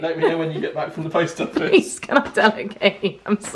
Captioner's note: laughing